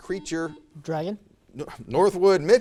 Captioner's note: buzzer